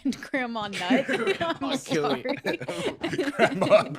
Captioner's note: scattered giggling